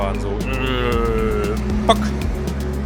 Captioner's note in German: ööööhhh